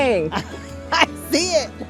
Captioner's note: laughs